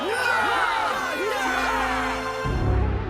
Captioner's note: mummies cheering